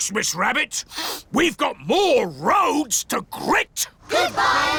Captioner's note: sniffs